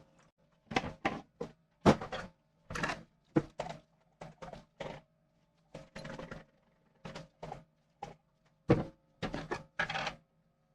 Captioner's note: jar shaking